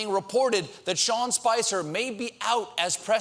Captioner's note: none